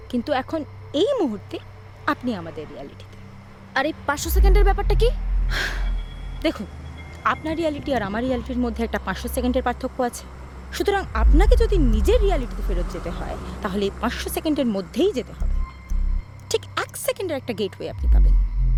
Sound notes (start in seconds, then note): 5.5 sighs